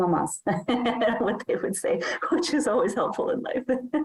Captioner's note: chuckles